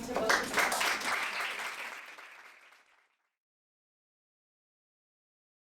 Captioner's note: applause